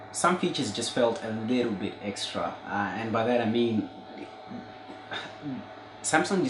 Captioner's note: sigh